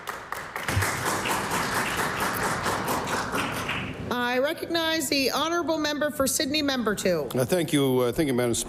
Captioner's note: applause